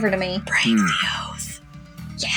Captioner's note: whispering